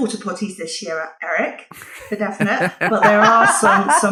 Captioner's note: laughing